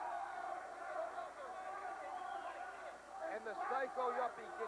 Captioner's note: crowd chatter